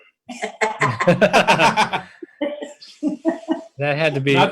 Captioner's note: laughter